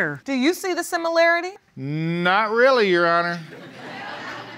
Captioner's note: audience laughing